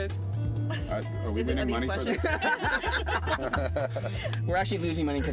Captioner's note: laughing